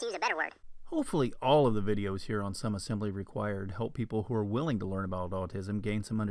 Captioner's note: man's voice